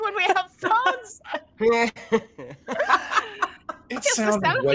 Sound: laughter

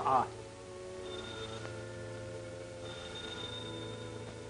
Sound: phone rings

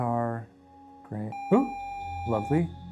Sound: video game screen beeping

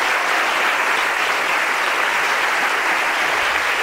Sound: applause

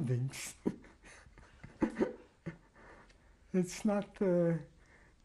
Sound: laughs

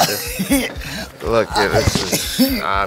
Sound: laughs

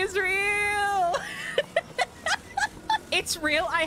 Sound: laughter

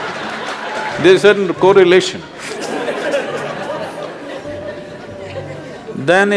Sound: laughter; laughs

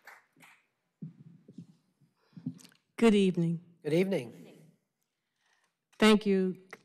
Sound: applause

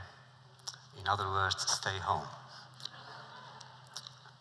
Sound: laughter

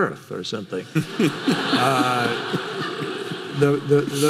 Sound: audience laughing

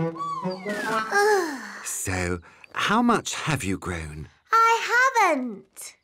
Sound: sighs

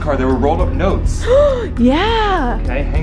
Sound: gasps

